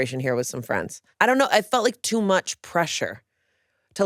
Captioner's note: none